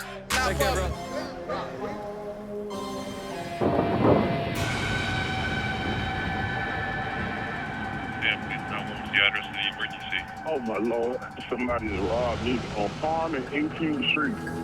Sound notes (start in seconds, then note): 3.5 foreboding music playing; 3.5 thunder rumbles